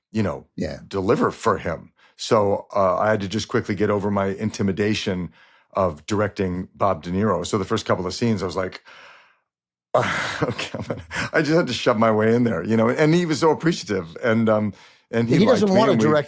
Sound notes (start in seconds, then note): 9.9 chuckles